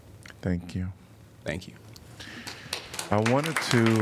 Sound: applause

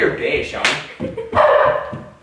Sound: smack; bark

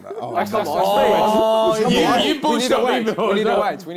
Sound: crowd mumbling

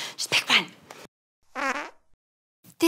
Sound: fart noise

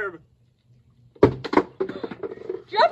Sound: sound of object getting kicked over

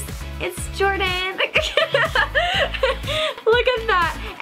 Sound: laughs

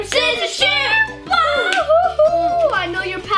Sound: cheers

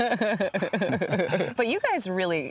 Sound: both laughing

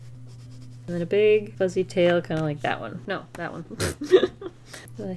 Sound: chuckles

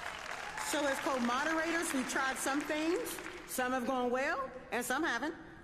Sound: applause

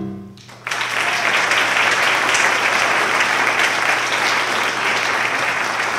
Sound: applause

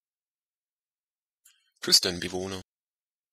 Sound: fast Pronunciation

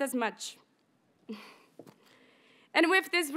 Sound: graduate giggles

